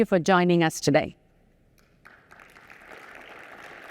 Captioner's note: applause